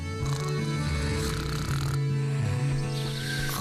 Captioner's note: snoring